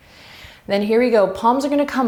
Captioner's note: deep breaths